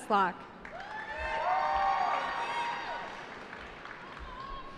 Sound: cheering

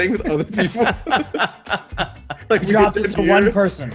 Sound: laugh

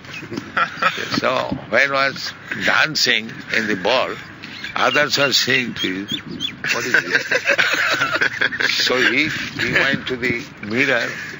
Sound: laughter

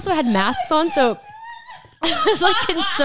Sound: laughs

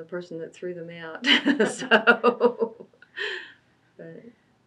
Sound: laughs

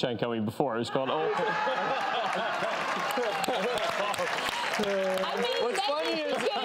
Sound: audience laughs and applauds

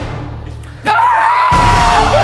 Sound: dramatic music plays; Ethan screams; dramatic music swells

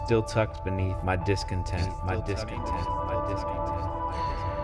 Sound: echoing

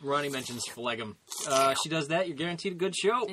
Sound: Ronnie slurping

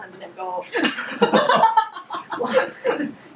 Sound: laughing

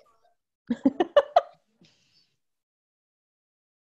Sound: laughs

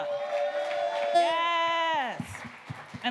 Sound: audience cheering

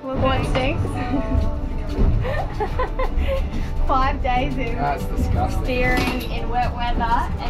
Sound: laughing

